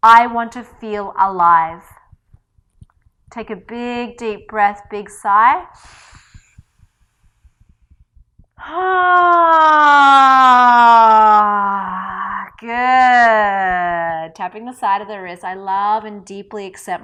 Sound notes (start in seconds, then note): 5.7 sighs audibly